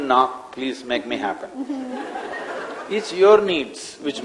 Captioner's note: laughter